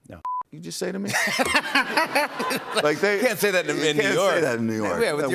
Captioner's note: laughter